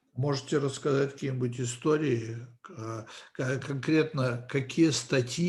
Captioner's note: translator speaking Russian language